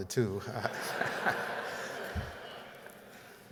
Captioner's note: laughter